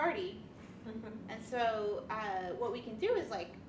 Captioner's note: woman laughs